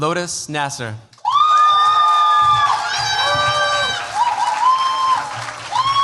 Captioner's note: cheers, applause